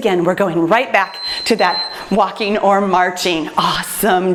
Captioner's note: timer beeps